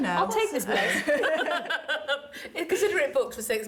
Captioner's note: laughter